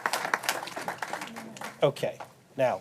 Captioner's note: applause